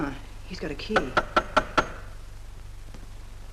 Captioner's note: knock at the door